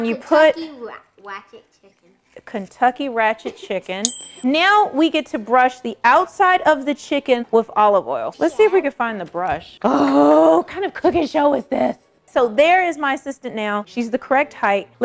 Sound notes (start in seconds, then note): 4.0 dings